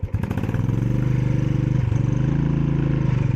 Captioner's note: revving